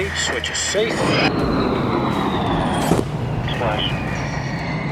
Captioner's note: aircraft whooshing